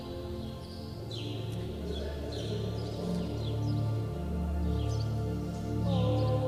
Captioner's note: birds chirping; gentle music continues